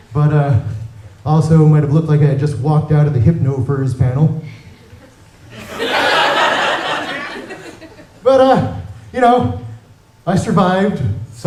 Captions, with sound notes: but also might have looked like I had just walked out of a hypo-furs panel [laughter] but, y'know, I survived